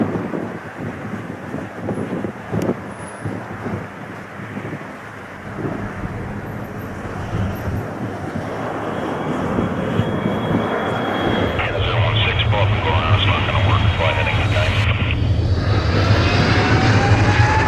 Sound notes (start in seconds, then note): 11.9 muffled pilot speaking; 14.9 strong wind, airplane engine